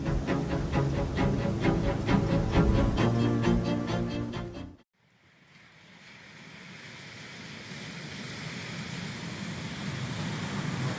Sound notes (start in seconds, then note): 5.6 rain falling